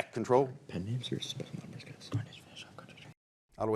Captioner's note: team whispering